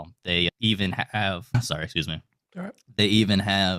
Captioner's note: coughing